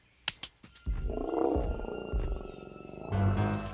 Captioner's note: heavy foot steps; Scarface grumbles softly; dramatic music